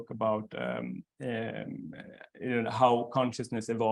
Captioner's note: stammering